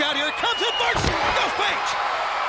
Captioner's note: crowd cheering